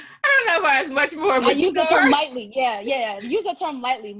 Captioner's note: laugh